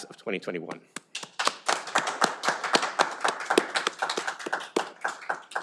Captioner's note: audience applauding